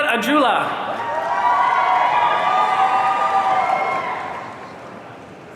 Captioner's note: audience cheering